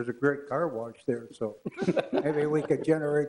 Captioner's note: laughs